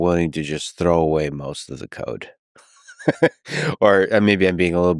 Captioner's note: laughs